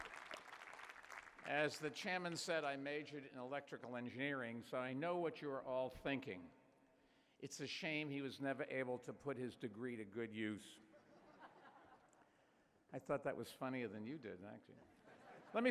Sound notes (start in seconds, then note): 10.9 chuckling; 14.9 laughter